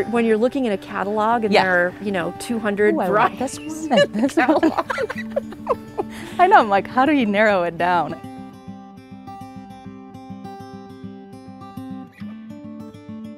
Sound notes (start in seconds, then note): 6.2 laugh; 9.9 gentle guitar music